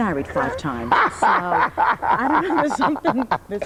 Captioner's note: laughing